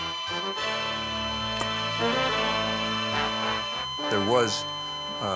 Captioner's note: flatline beep resonating; dramatic music